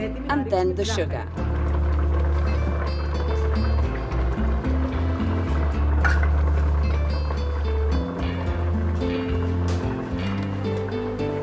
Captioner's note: cooking sounds; Woman speaking Greek